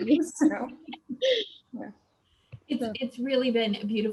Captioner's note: laughing